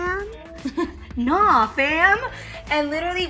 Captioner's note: laughs